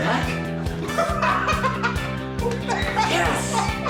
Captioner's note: laughing